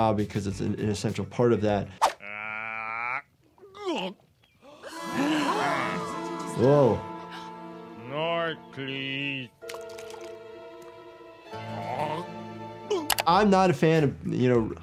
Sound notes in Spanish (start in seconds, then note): 2.2 traga saliva; 4.6 todos jadean